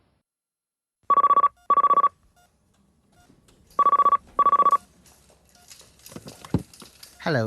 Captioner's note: phone ringing